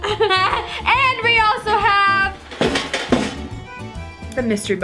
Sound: giggles

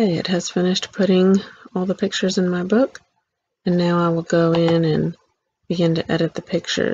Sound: click

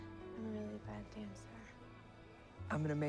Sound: none

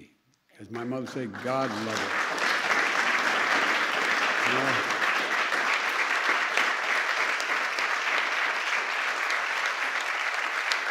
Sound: applause

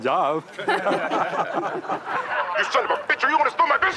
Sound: laughing

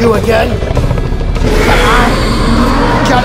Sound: Indominus Rex low growl

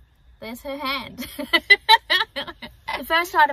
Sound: chuckles

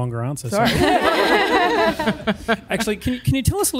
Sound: laughs

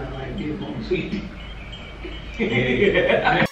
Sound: laughs

